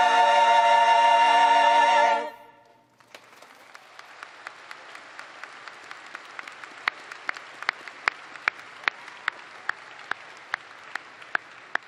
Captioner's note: applause